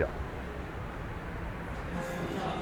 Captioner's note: sound of traffic